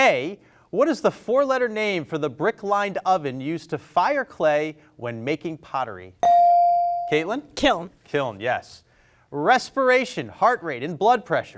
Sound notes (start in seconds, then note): 6.2 bell rings